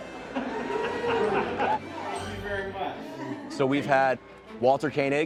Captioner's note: laughter